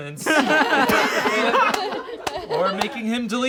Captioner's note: all laugh